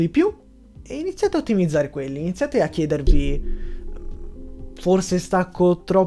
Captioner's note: dong!!!